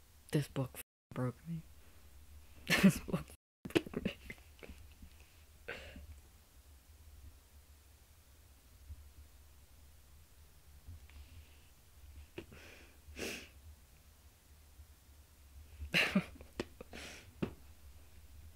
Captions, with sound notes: This book broke me. This book f-cking broke me. (sniffling) (laughing)